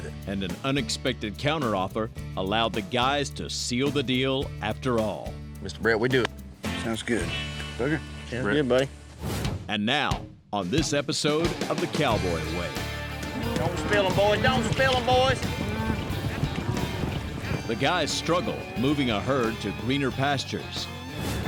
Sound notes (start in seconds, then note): 13.2 cattle moo